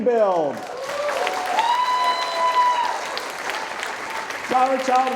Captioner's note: audience cheering and applauding